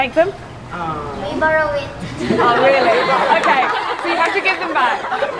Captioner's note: laughter